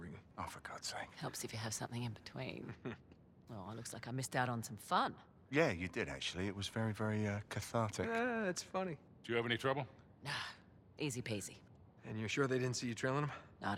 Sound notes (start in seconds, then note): 2.7 laugh